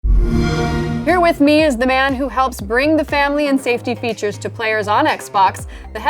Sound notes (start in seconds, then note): 0.0 xbox sound